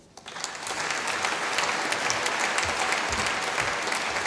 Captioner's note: applause